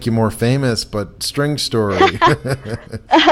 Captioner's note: laughs